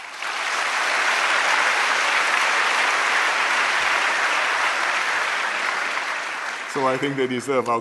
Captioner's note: applause